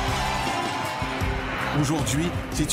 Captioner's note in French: acclamations